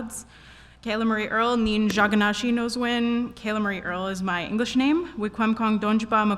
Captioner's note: Speaking in Ojibwe